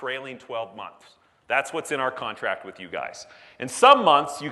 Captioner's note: none